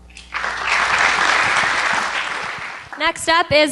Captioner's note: applause